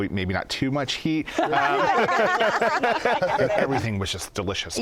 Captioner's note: laughter